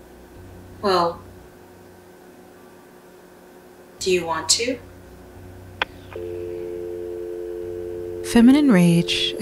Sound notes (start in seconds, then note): 6.1 dial tone